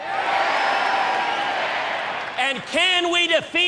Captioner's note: applause